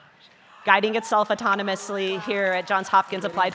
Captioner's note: scientists cheering